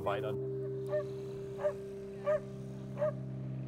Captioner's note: barking